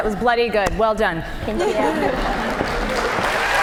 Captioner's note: cheers and applause